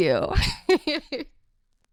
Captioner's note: laughing